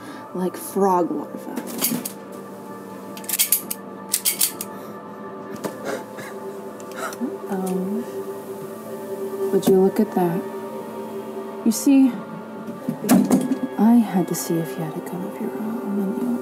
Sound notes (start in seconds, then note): 1.9 gun clicks; 5.9 Reese chuckles